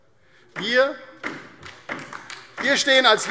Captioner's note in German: Beifall DIE LINKE